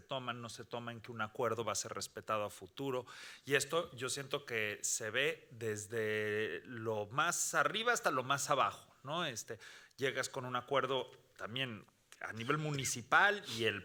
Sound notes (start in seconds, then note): 8.9 speaking Spanish continues